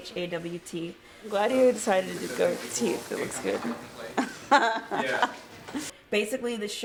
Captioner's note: laughs